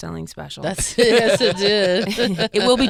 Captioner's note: laughing